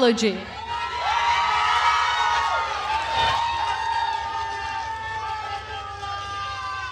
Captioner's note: attendees cheering and applauding